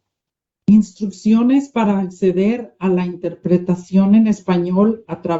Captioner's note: non-english speech